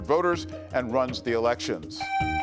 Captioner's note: buzzer beeps